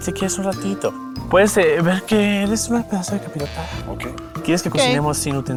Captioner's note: sexy whispering